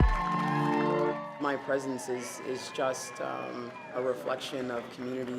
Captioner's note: cheers and Applause